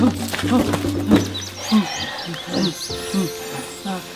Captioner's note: both grunting